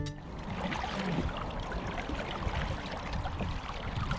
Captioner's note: water splashing